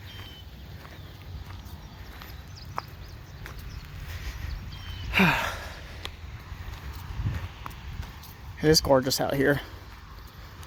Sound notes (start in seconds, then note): 0.0 birds singing; 0.5 sigh